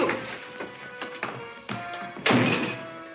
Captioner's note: door slams